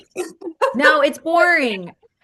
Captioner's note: laughs